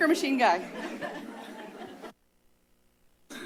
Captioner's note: distant laughs